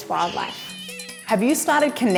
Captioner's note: meowing